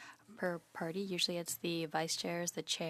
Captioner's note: speaking in French